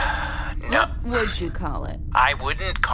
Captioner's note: sighs